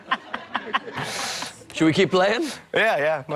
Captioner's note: laughs